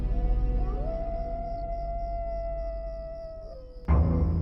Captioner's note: wolves howl in distance